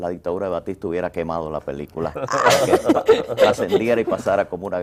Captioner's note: risas